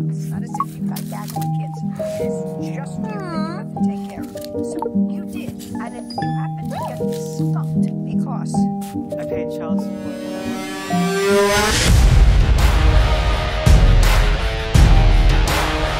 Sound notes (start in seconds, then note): 0.5 phone notification; 3.6 phone notification